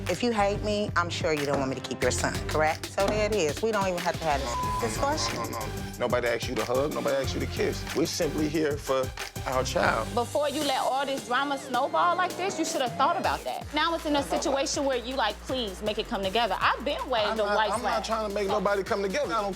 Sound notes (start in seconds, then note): 4.3 beep